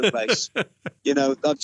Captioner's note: laughs